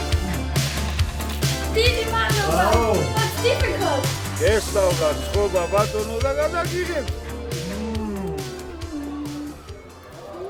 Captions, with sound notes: Thank you very much! [in Georgian] Uh … that's difficult. [speaking Georgian] Mhmmmm …